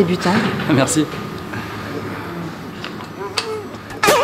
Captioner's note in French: Bruit de honte